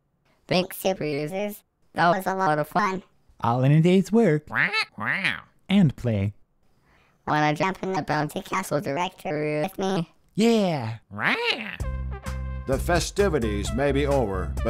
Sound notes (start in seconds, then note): 4.5 squawk; 11.1 squawk!